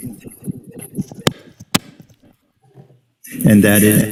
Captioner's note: distorted sound